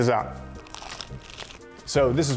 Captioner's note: pizza crunches